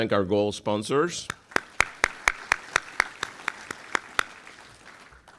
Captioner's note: applause